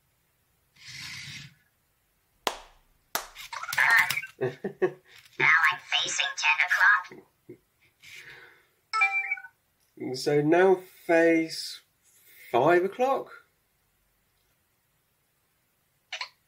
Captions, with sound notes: [Slow Clap] Now I'm facing ten o'clock. So now face, 5 o'clock?